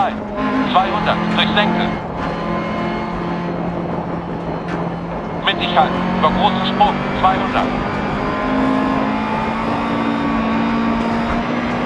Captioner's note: engine sounds and co-pilot's instructions